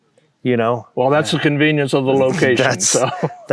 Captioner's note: laughs